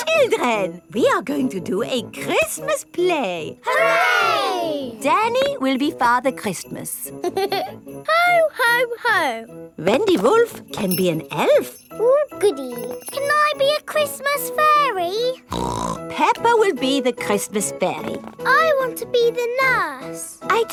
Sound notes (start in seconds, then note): 7.2 giggles; 15.5 snorts